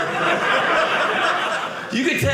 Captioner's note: audience laughing